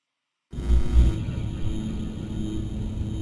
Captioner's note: buzzing